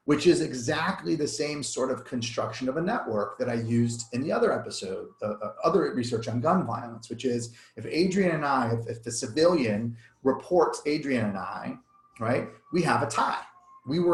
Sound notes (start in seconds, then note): 10.2 siren wails